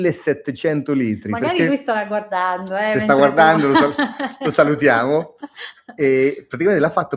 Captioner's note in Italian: risate